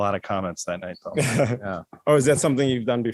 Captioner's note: laughter